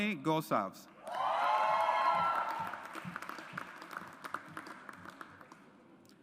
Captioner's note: audience applauds